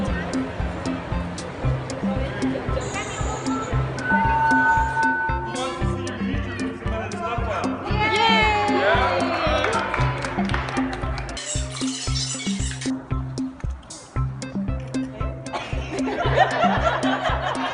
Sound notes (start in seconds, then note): 15.5 laughs